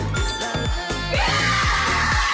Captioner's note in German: Jubel